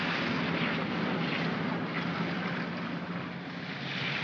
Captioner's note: water splashes; vehicles rumble; water splashes